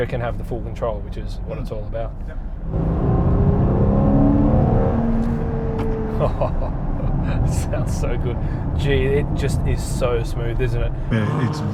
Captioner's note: acceleration